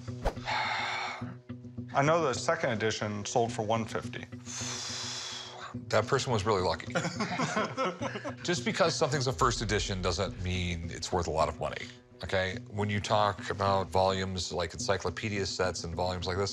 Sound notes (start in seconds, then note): 0.4 pained sigh; 4.4 exhale; 7.0 laughing